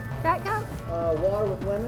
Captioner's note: voiceover